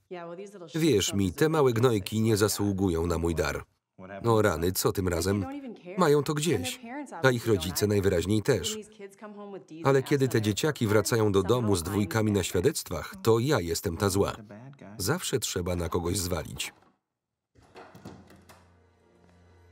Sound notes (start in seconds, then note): 15.7 someone forcing the door